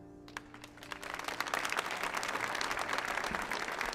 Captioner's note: audience applauding